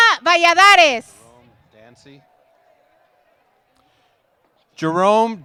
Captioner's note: applause